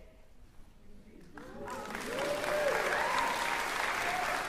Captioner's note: cheering, applause